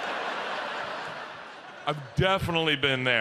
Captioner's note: audience laughs